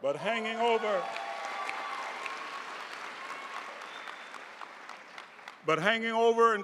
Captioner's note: audience cheering and applauding